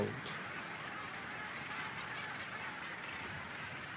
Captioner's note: squawking